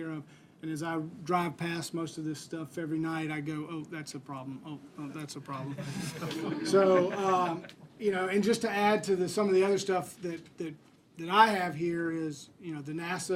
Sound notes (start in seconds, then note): 5.6 laughter